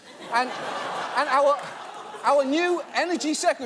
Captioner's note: audience laughs